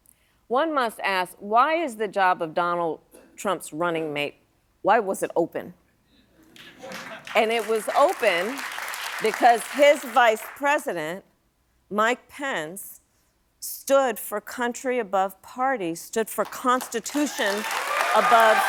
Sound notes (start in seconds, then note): 6.5 applause